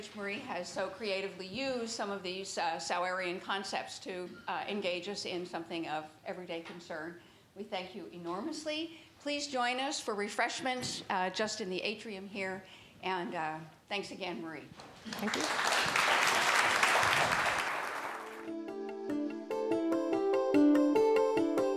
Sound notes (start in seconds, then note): 15.0 audience applauds; 18.4 gentle music